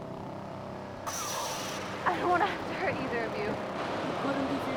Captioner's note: Lightsaber ignites